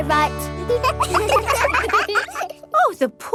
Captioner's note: children laugh